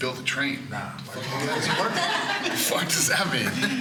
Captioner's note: laughing